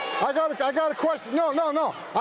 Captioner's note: crowd boos